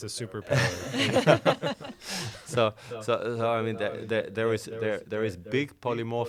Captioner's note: laughing